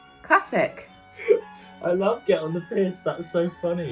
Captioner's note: laughing